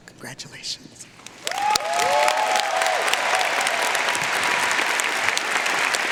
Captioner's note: audience cheering and applauding